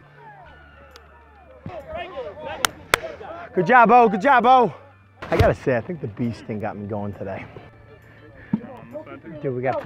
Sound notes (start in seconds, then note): 0.8 players chatter